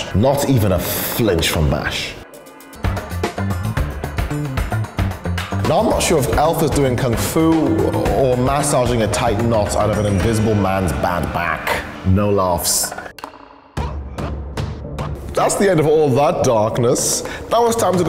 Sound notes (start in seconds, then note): 15.3 Dr. Evil voice